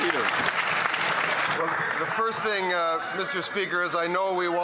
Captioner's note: cheering and Applause